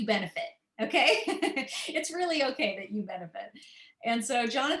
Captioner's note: laughter